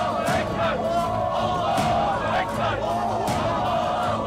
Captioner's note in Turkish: Hep bir ağızdan